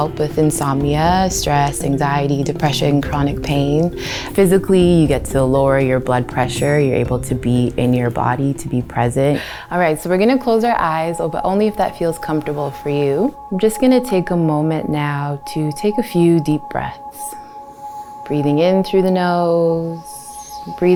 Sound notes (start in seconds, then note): none